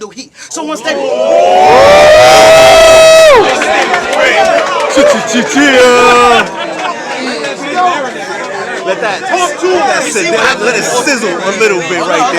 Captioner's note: crowd Reaction